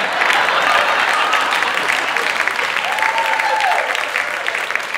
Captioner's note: audience clapping